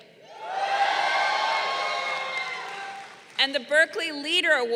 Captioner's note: crowd cheering